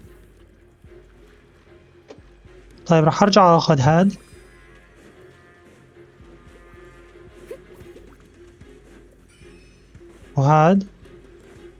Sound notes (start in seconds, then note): 1.9 gentle music; 7.4 yelps; 9.7 grunts